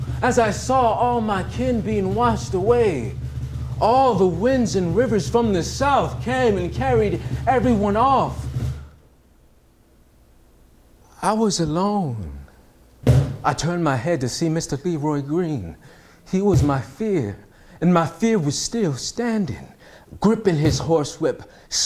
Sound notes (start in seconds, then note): 8.4 silence